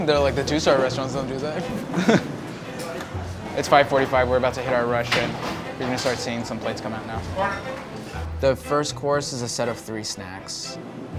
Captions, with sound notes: They're like, the two-star restaurants don't do that. (laughs) It's 5:45, we're about to hit our rush and we're gonna start seeing some plates come out now. The first course is a set of three snacks.